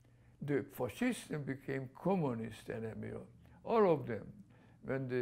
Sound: non-english

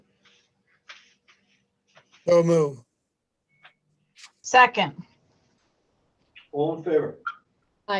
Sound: phone

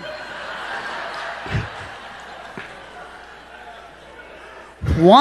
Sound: congregation laughing

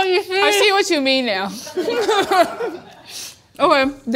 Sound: laughing

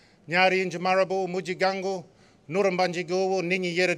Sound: non-english speech

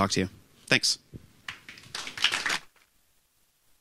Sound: applause

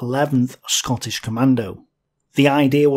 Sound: Scottish

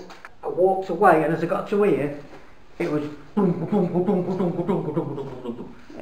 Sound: dragging noise

